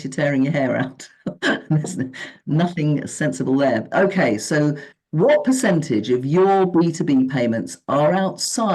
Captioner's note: giggle